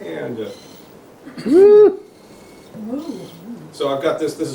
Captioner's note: quiet servo noises